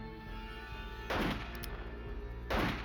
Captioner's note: two gunshots